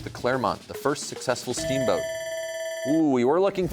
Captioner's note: bell rings